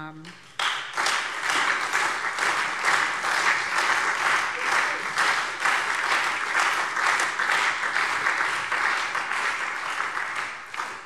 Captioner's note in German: Beifall SPD und Freie Demokraten